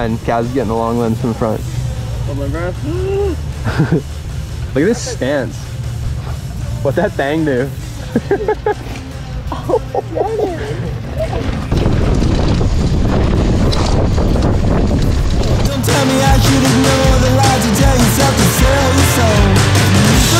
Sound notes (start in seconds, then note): 2.8 laughs; 7.8 laughs; 12.2 wind blowing